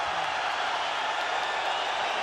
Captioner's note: loud cheering